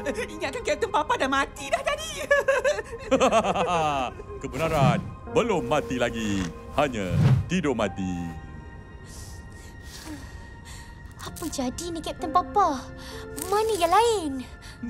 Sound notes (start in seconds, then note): 2.2 chuckles